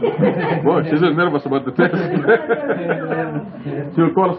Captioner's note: laughter